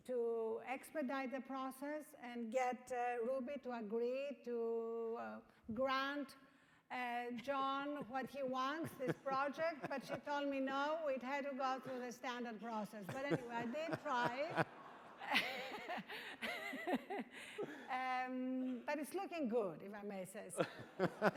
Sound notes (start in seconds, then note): 15.1 laughing